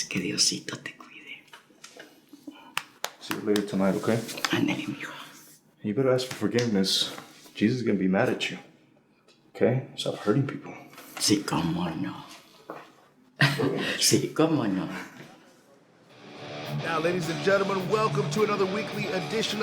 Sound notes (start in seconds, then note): 0.1 Spanish; 4.4 Spanish; 11.2 Spanish; 14.2 Spanish